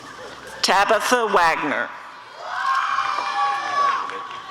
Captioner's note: audience cheering